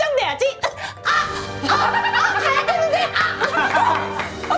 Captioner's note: sounds of pain